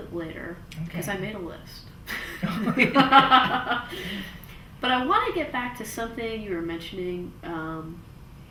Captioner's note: laughs